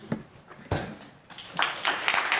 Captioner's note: applause